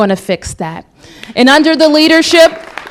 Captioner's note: applause